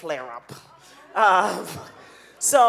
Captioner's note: audience laughing